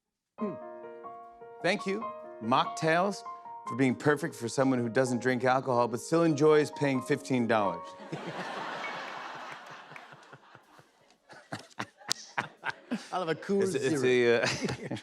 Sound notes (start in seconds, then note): 8.0 laughter; 11.3 chuckles